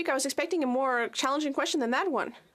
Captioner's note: speaking French